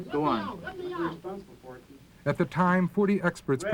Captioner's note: voiceover